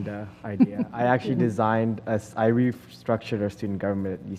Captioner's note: laugh